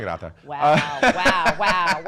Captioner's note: laughing